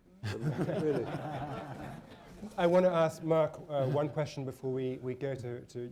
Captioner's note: laughter